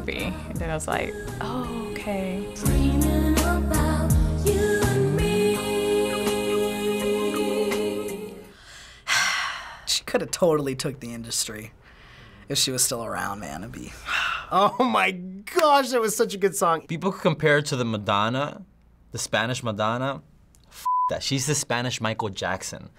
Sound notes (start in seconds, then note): 8.5 sighs deeply; 14.0 sighs